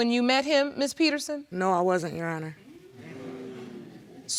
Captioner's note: audience exclaiming in shock